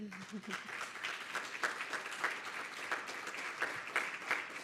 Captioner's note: audience applauding